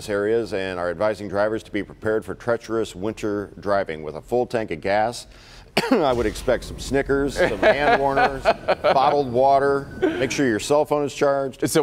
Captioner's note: laughter